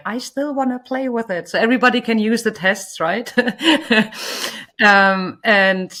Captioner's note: laughs